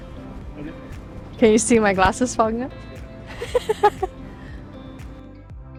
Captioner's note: laughs